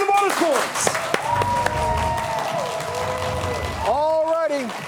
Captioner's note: audience clapping